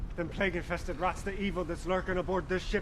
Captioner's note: none